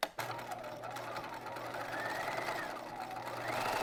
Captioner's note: machine whirring